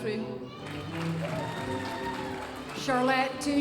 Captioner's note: audience applauding